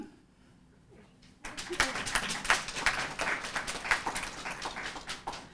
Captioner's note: applause